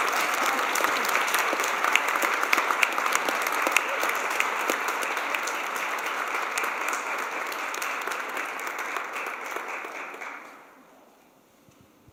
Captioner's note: applause